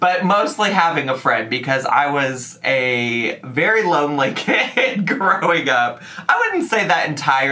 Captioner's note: laughs